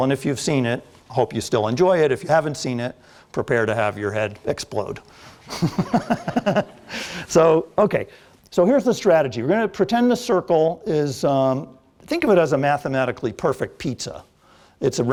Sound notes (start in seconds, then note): 5.4 laughter